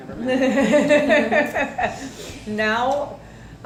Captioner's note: laughing